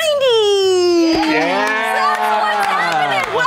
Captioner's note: cheering